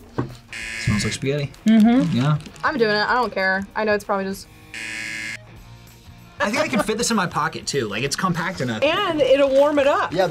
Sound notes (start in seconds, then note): 4.7 buzzer